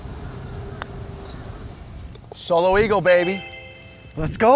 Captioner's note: none